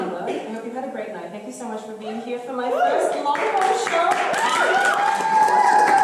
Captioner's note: screams; applause